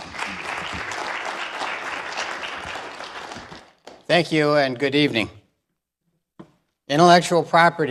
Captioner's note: applause